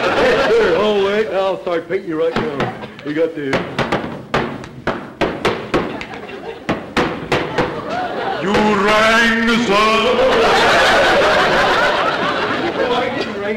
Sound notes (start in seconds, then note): 0.0 audience laughter; 3.4 banging on canvas with brush; 10.2 audience laughter